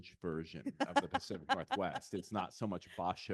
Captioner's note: laughing